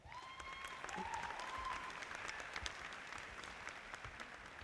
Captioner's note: audience applauding